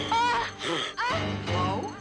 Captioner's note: screaming